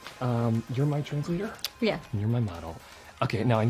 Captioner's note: speaks in english